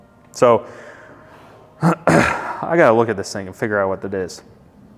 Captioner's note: clears throat